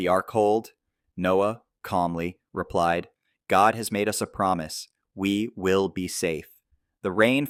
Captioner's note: calmly